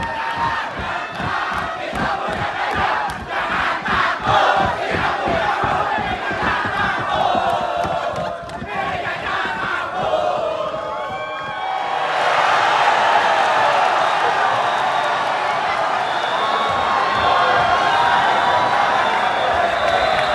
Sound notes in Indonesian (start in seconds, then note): 11.6 tepuk tangan